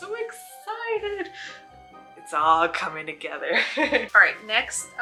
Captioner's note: laugh